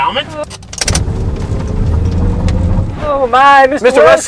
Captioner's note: car revving